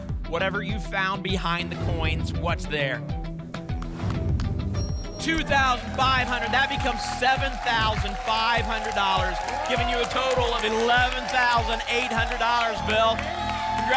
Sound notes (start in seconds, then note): 3.9 whoosh; 8.0 applause and cheering